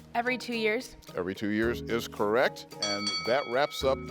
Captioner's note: bell ringing